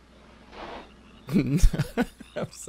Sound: chuckles

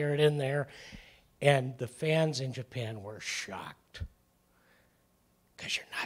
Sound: whispering

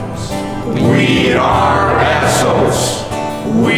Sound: chanting

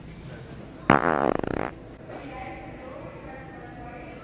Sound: farting noise

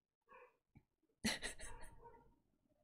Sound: laughs

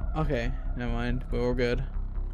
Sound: none

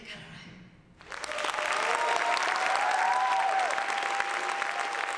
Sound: applause

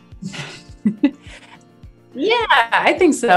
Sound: both softly laugh

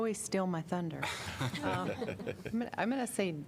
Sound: laughter

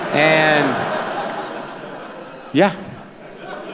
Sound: laughter

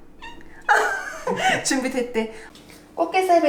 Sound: laughs

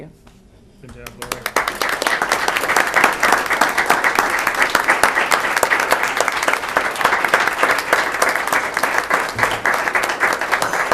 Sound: applause

